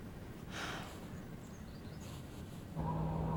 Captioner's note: sighing